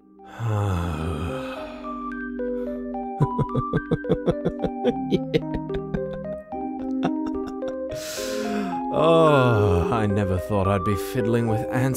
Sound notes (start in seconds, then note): 0.1 foreboding music; 1.5 fatigued sigh turns into ominous laughter